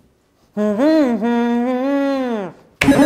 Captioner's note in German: Summen